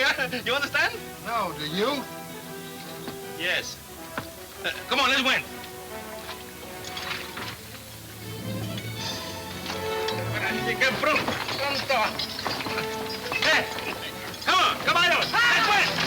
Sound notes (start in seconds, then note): 5.6 tense orchestra music; 10.3 speaking Spanish